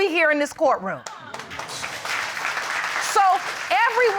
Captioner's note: audience applaud